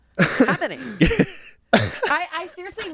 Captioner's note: everyone laughs